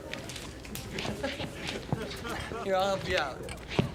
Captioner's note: laughing